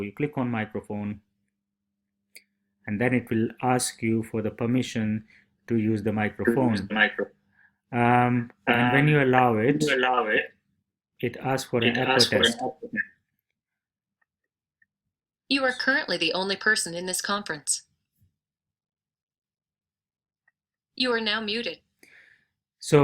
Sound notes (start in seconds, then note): 16.7 computer audio; 21.1 computer audio